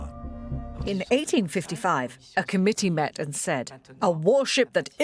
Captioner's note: voiceover